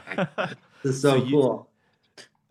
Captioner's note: both laughing